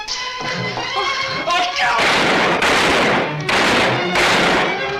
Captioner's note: tense orchestral music; gun fires